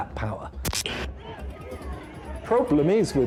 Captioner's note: static hisses